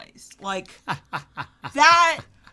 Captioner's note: laughs